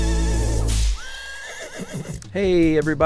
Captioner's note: whip cracking and horse neighing